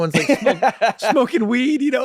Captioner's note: Glenn laughing